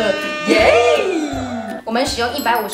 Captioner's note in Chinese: 再歡呼！